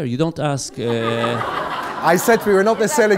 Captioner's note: laughs